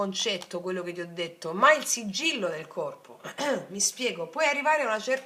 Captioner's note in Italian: schiarire la voce